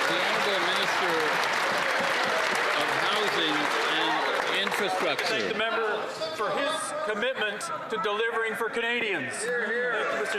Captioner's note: some Applause